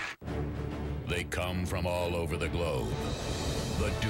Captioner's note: audience applauding